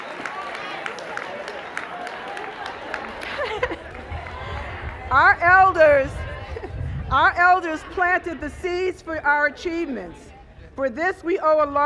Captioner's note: cheers and applause